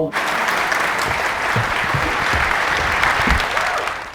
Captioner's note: crowd clapping